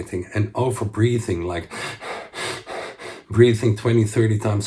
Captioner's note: man panting